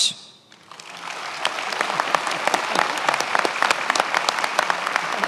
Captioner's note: many applauding